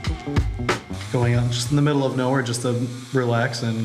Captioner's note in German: englisch